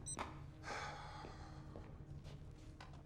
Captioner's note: sigh